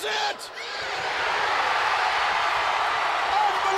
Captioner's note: audience cheering